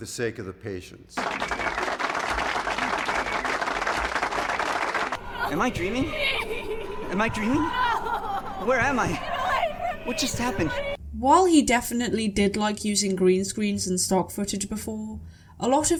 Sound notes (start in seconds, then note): 1.2 stock clapping; 10.1 strange stock screaming